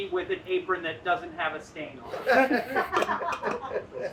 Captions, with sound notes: with an apron that doesn't have a stain on it. [all laughing]